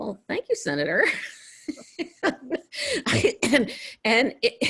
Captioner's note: laughs